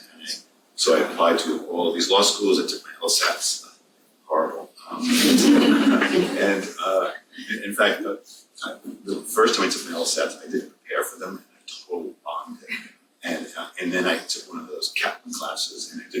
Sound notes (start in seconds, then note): 5.0 everyone laughs